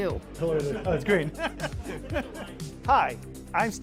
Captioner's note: laughs